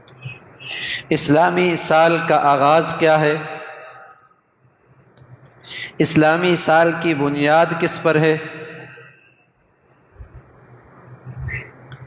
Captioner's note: sigh